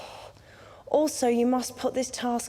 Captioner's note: sighs